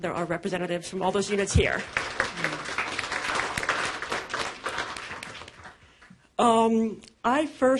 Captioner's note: applause